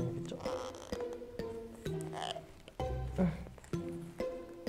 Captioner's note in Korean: 끙끙